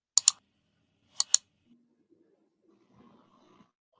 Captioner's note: mouse clicking